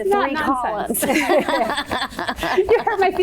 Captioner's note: laughing